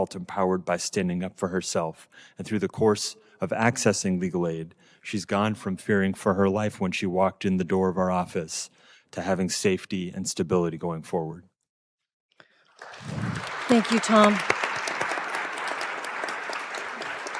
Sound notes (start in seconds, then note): 12.5 applause